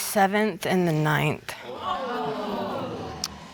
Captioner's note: audience exclaiming